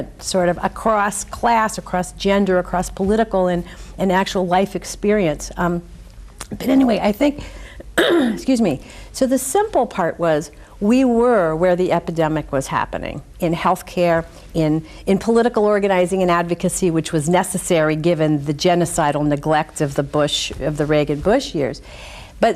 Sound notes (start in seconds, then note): 7.9 clears throat